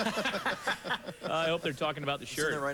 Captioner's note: laughter